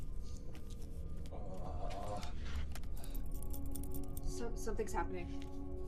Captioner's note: Patrick groaning